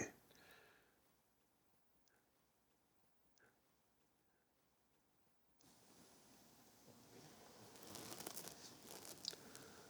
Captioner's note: silence